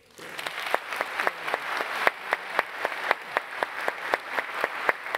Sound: applause

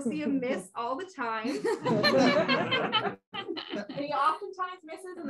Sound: laughter

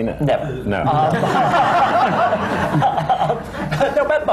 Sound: laughter

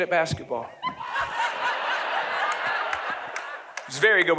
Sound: audience laughing

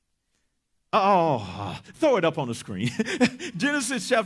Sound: chuckles

